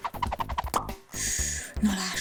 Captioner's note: pop